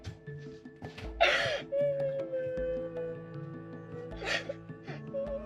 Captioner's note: crying